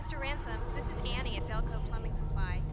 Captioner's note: beeping; voiceover